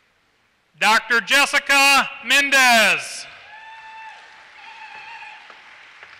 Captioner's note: applause